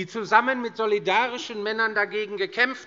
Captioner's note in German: none